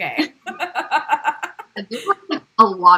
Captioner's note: laugh